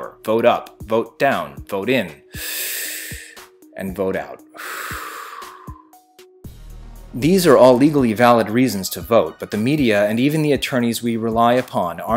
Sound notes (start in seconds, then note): 2.2 deep inhale; 4.5 deep exhale